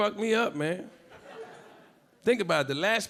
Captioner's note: a few audience members laughing